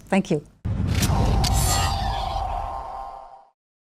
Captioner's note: whooshing